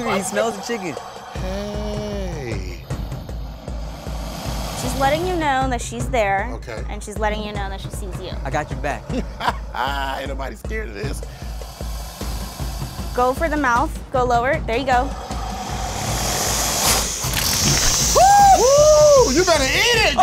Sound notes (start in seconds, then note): 2.1 alligator hisses; 8.5 laughs; 14.5 alligator hisses; 18.1 both exclaim